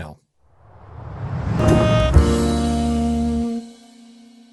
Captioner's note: air swooshing